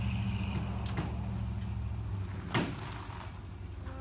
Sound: slipping chain

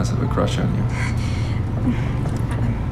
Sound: embarrassed chuckle

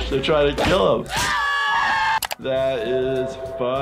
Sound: characters shouting

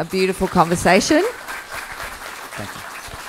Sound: applause

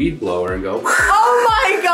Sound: imitates whooshing air

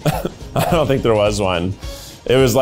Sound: laughs

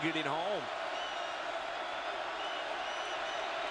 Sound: crowd cheering

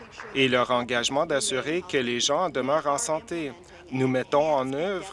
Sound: applause

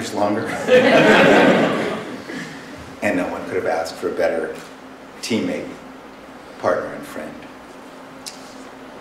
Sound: laughter

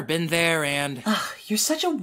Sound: Helmet sighs

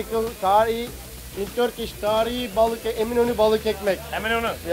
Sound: speaking foreign language

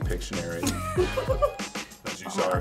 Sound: giggling

